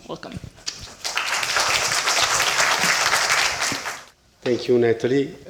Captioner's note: applause